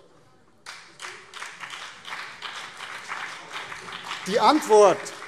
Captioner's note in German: Beifall BÜNDNIS 90/DIE GRÜNEN